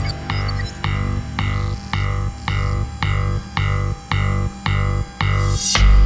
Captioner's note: tense suspenseful music; robot whirring